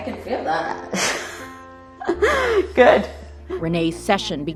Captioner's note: laughs